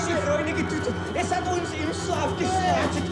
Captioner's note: Fritz speaking in foreign language